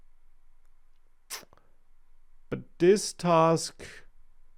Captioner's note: smacks lips